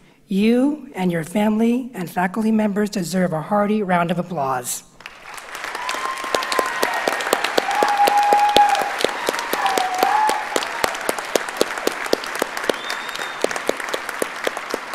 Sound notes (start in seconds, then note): 5.6 audience cheers and applauds